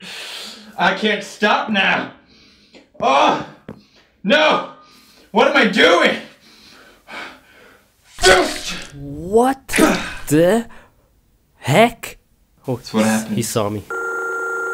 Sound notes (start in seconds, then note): 8.2 rips off flesh